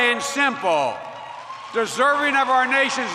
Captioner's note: applause